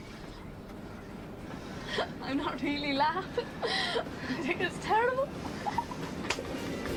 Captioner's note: Reír